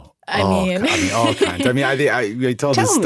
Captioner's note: laughs